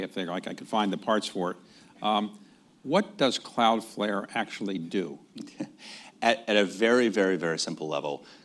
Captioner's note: laughs